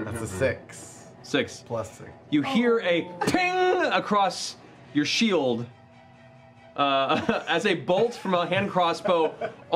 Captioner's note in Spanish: sonido metálico